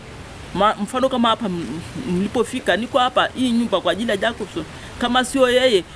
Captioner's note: speaking in foreign language